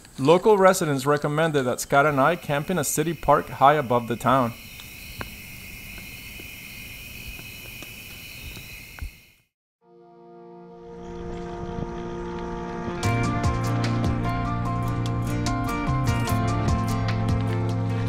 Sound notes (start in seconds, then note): 5.3 crickets chirping; 9.8 gentle music